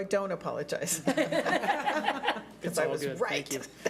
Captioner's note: laughing